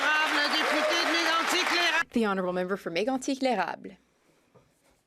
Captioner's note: some Applause